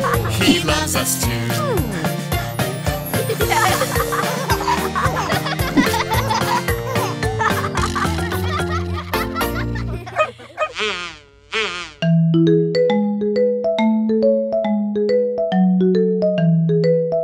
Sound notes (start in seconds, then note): 3.2 children laugh; 10.1 dog barks